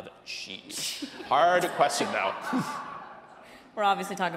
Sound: audience laughing

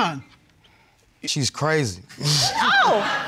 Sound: chuckles

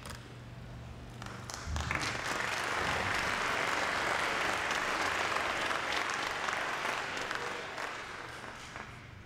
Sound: applause

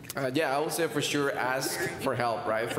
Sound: laughter

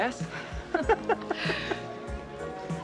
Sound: laughing

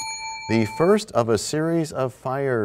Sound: bell rings, time expires

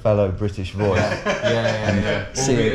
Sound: all laughing

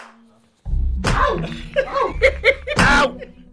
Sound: slap

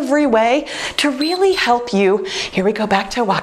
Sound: timer beeps

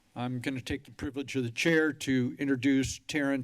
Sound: none

